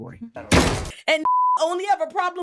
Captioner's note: beep